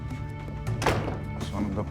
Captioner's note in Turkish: Kapı kapanma sesi